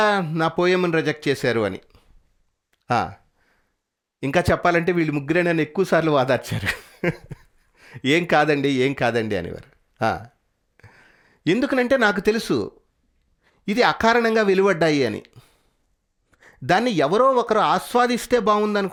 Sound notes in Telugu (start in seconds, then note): 6.4 నవ్వు